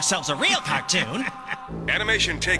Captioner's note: chuckling